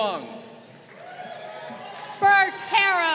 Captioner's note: crowd cheering